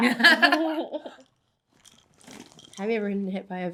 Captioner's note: Becca and Zoey laugh